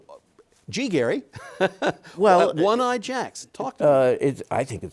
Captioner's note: chuckles